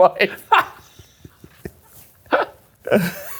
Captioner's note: laughing